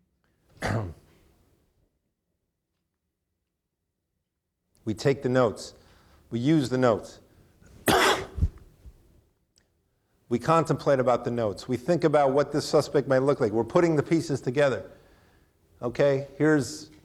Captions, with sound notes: (clears throat) We take the notes. We use the notes (coughs). We contemplate about the notes. We think about what the suspect might look like. We're putting the pieces together.